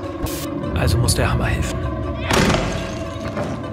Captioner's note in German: Krachen